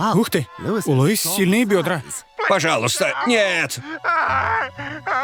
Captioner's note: groaning